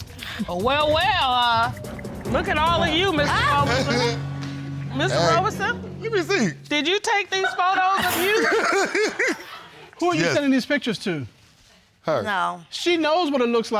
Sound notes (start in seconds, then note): 8.0 laughs